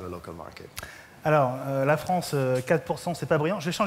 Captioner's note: speaking french